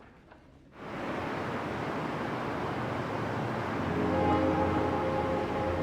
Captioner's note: traffic humming; gentle music